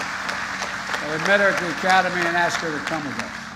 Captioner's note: applause